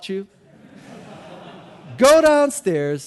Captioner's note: audience laughing